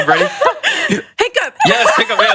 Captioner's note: hiccups